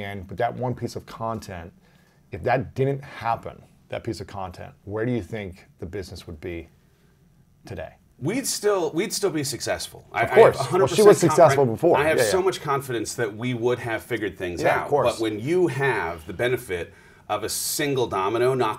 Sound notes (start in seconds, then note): 11.9 murmurs